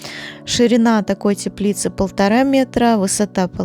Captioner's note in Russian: none